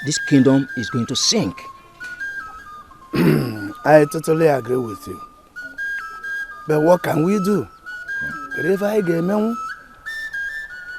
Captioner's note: cough and clears throat